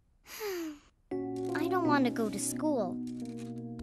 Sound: sighing

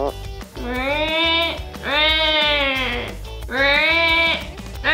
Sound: imitates puffin

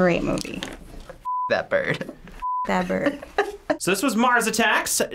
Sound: snickers; chuckles

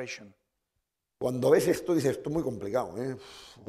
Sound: speaking spanish

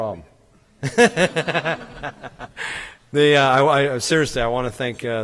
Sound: laughs

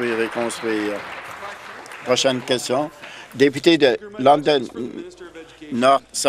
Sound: applause

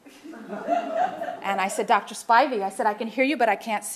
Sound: laughter

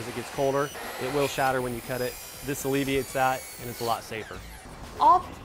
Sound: sawing

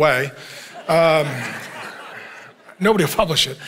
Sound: congregation laughing

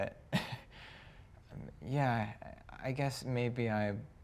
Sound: chuckles awkwardly

